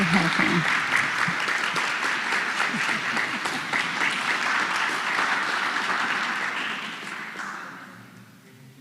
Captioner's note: applause